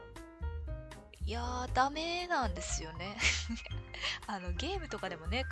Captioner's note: laughs